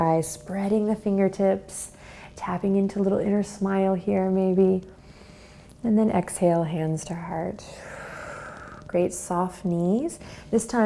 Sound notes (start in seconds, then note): 7.7 exhales